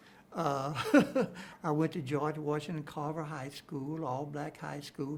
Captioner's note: chuckles